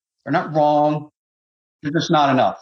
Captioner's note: chuckles